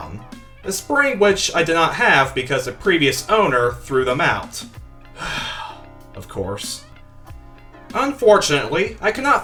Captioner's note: sigh